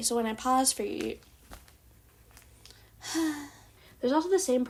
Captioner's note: dramatic sigh